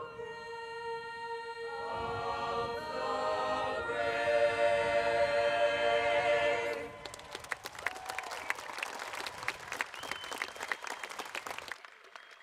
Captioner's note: cheers and applause